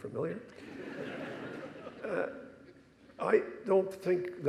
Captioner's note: audience laughing